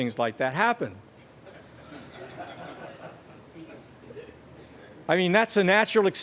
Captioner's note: laughter